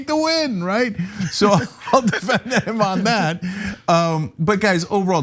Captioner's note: laugh